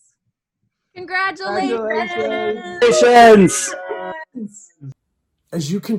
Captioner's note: overlapping chattering